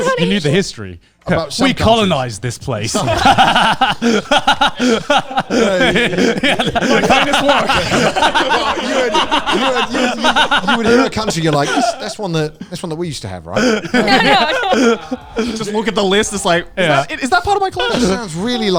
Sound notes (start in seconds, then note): 2.9 all laughing; 13.4 all laughing